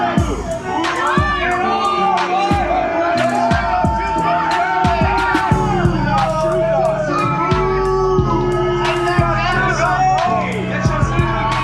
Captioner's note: crowd continues to boo